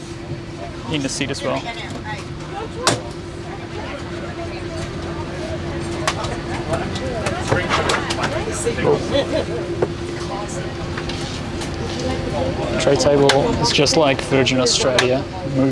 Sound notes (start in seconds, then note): 3.0 arm rest slamming